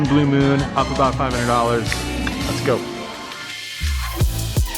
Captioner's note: tongue clicks; upbeat music